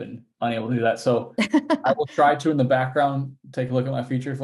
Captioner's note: laughing